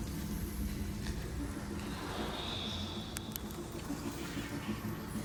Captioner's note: bat sounds